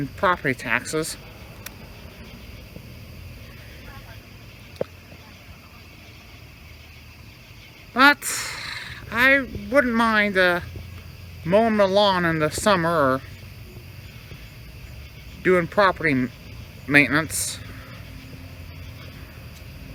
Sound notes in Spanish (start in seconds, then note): 1.2 Charla indistinta